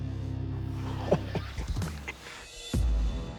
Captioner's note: man laughs